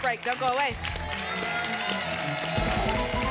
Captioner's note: applause and cheering cont